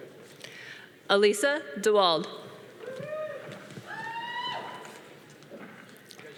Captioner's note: audience cheering